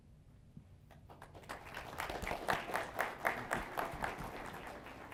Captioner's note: applause